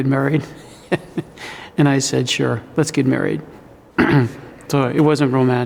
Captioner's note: laughs